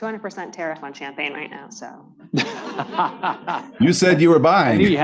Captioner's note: laughter